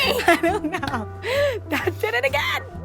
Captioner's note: laughs